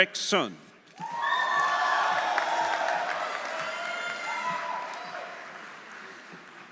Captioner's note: audience cheering; audience applauding